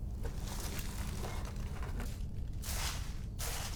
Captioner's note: leaves rustle